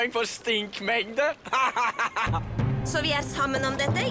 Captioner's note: laughs